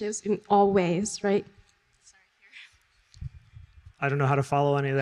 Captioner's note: chuckles